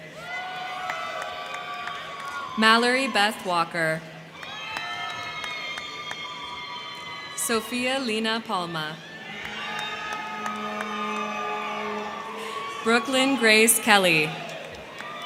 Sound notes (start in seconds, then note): 0.0 crowd clapping; 0.1 crowd cheering; 4.1 crowd cheering; 4.2 crowd clapping; 9.0 crowd cheering; 9.0 crowd clapping; 14.6 crowd cheering; 14.6 crowd clapping